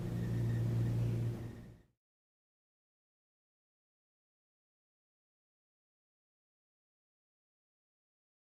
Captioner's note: silence